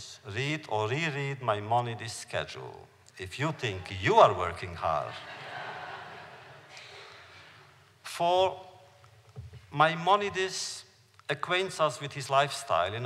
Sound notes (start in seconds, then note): 5.1 laughter